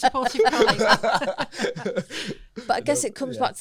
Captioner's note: laughter